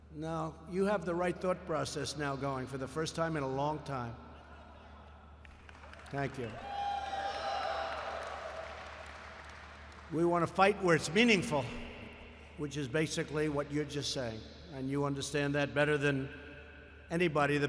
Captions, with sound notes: No. You have the right thought process now going, for the first time in a long time. (Laughter and applause.) Thank you. We want to fight where it’s meaningful, which is basically what you’re just saying. And you understand that better than anybody.